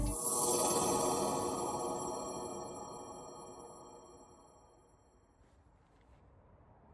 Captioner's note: ethereal distortion